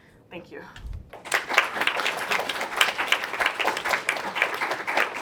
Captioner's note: applause